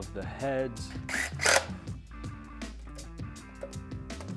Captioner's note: whirring